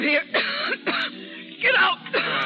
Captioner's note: coughing